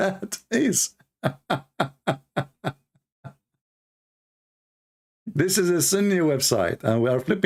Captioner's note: Ketawa